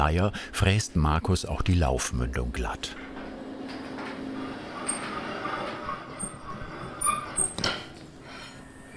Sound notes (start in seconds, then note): 4.7 squeaking